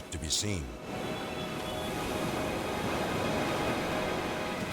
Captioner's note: waves roaring; suspenseful music